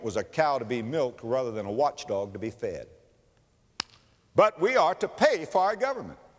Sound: slap

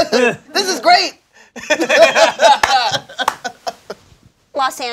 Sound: all laughing

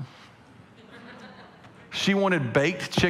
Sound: congregation laughing

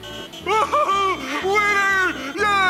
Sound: laughing

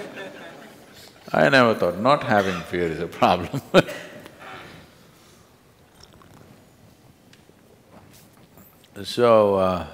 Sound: laughter; laughs

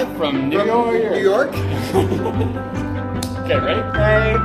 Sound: laughing

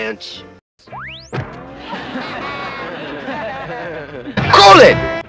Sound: more cute laughter, this time from everyone else

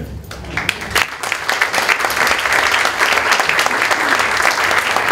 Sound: applause

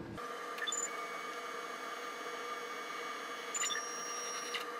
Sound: machine buzzes

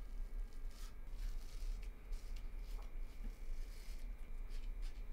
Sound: none

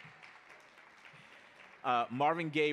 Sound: audience applauding

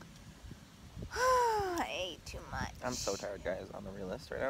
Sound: sighs

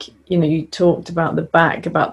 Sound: none

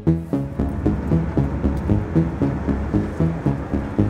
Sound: low engine humming

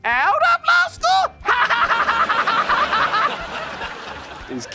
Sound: laughing

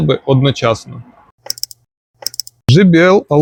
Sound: click

